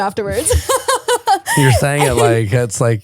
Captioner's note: laughing